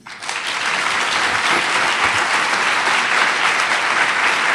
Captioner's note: audience applauds